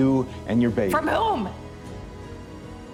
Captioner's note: shouting